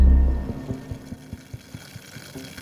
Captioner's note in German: Leises Zischen